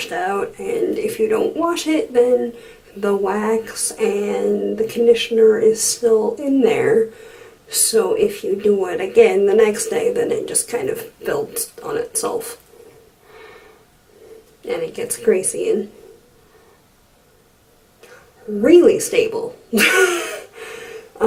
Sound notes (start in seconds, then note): 19.7 laughs